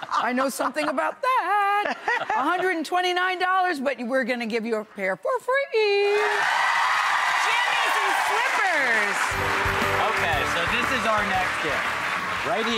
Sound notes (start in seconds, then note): 6.1 audience cheers